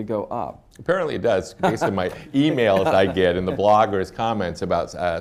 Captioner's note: laughter